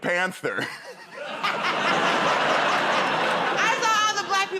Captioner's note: laughter